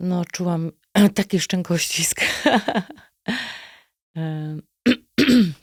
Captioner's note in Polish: śmiech